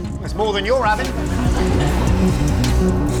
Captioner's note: audience laughs